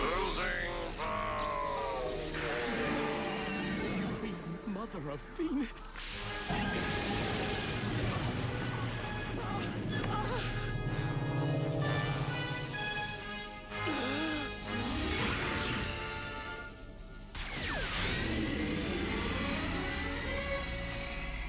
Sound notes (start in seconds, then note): 3.9 screeching; 7.3 screeching; 14.5 gasps; 18.1 screeching